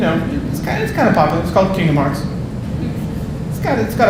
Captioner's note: audience laughing